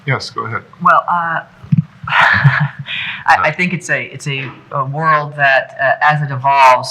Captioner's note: laughs